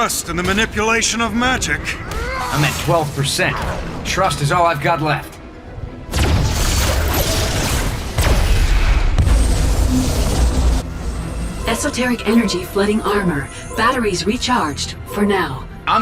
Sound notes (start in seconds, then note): 6.0 whoosh; 6.2 electrical zapping; 9.3 electrical humming